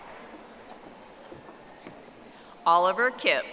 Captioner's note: audience applauding